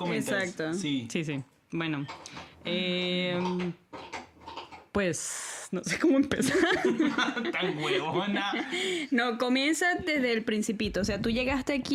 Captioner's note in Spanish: risas